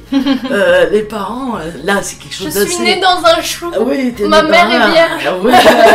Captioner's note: laughs; laughs